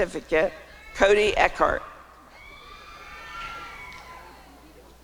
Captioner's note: applause and cheering